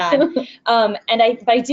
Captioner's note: laughs